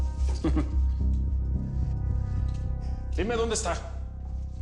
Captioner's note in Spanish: Risas